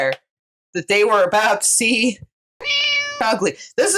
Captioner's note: meow